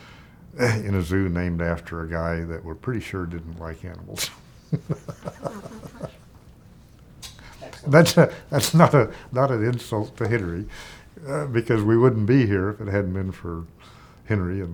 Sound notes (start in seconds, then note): 4.5 chuckling